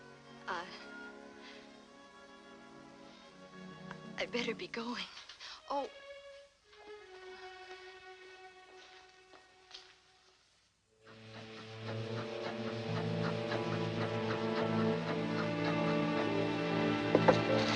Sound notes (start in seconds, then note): 11.0 foreboding music; 14.0 hissing